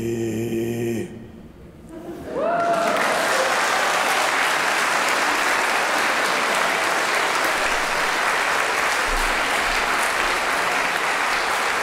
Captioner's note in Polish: Aplauz, śmiechy